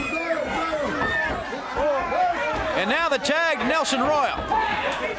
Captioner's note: crowd cheering